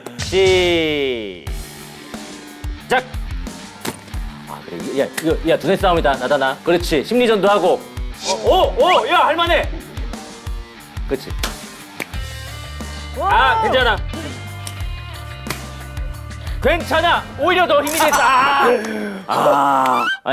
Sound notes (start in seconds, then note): 14.6 slap